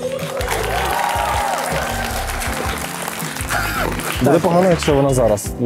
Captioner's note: applause